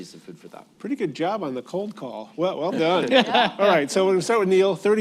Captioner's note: laughter